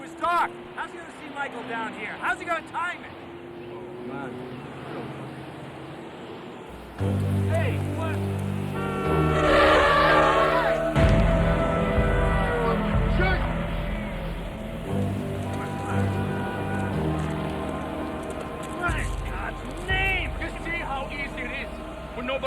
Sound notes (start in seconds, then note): 9.4 horn honking; 9.4 tires screeching; 17.1 dramatic music